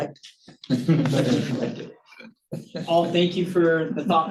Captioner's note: audience chuckling